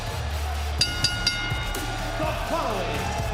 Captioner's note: bell rings